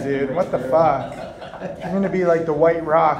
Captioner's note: laughs